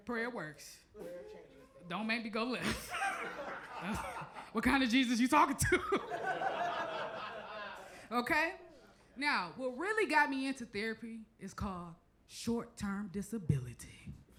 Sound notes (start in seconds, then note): 2.6 chuckles; 2.6 crowd laughs; 5.8 laughs